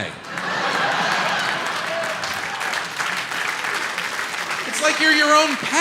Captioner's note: audience laughs and applauds